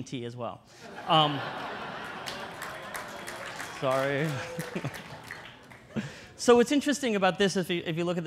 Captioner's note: audience laughter and applause; laughter